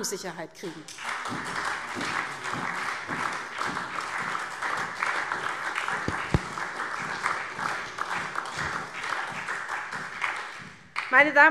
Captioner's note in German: Beifall SPD und DIE LINKE